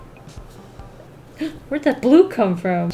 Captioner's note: gasps